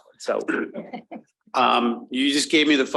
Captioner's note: panelist chuckling